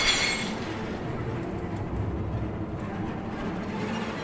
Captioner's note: glass smashing